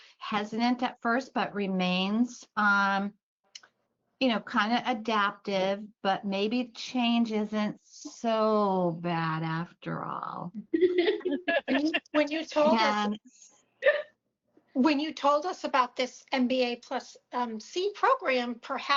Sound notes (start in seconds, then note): 10.7 laughter